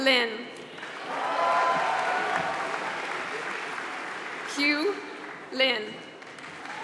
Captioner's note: applause